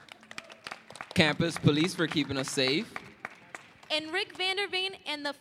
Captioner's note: applause